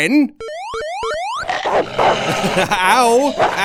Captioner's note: Sven boings; Sven barking; moaning in pain; Sven continues barking